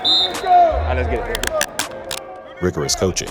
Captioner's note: whistle